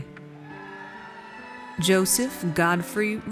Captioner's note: audience cheers